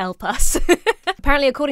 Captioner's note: laughs